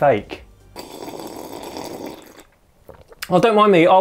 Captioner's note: sips tea loudly